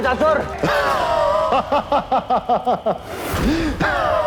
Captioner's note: laughs